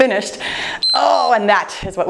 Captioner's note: timer beeps